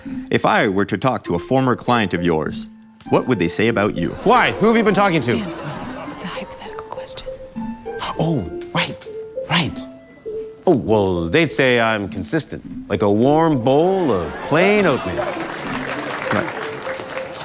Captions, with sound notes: If I were to talk to a former client of yours, what would they say about you? - Why? Who have you been talking to? - [Whispers] Stan, it's a hypothetical question. - Oh, right. Right. Oh, well, they'd say I'm consistent, like a warm bowl of plain oatmeal. - Alright...